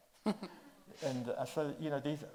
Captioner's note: chuckles